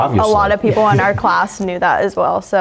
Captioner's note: laugh